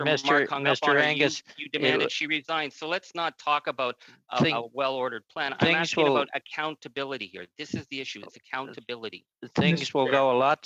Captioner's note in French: voix de l'interprète